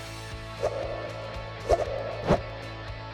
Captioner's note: swiping sound